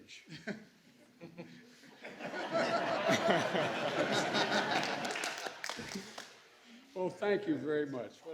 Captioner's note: laughter